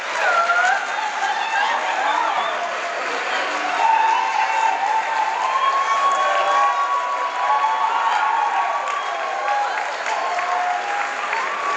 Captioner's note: crowd applause